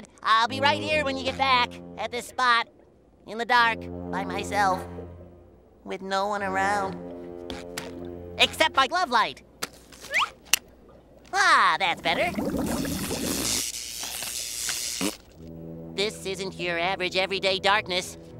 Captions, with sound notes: I'll be right here when you get back... at this spot... in the dark by myself. With no one around. Except my glove light! Ah, that's better. [sparking] [raspberry] This isn't your average everyday darkness.